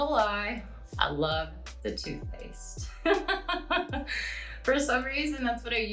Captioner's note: laughing